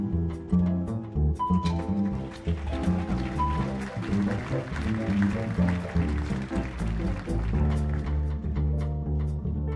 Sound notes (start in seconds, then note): 1.9 audience applauding